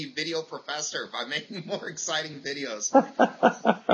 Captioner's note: laughs; laughter